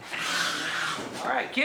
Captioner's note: hissing